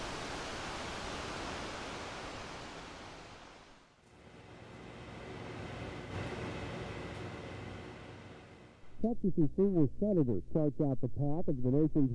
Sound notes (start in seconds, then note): 9.3 murmuring